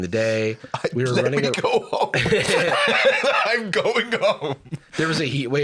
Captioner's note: laughing